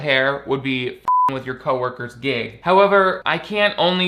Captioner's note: beep